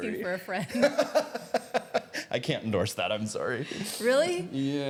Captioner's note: both laughing